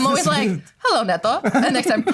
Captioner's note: laughter